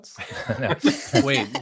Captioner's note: all laughing